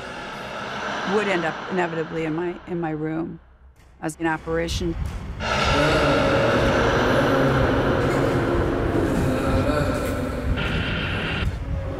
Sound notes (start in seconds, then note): 5.4 hisses; 6.2 heart beat thumping